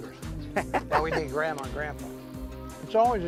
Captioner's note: laughter